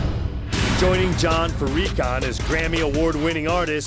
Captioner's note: voiceover